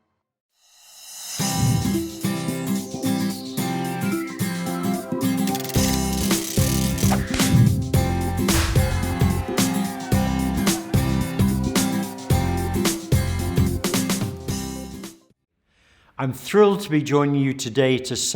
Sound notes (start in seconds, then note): 1.4 upbeat music; 8.5 cheers